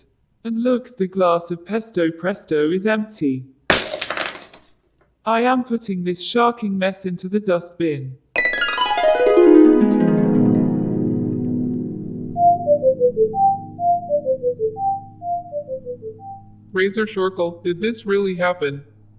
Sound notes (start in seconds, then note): 3.7 glass shattering; 8.3 harp; 12.3 beeping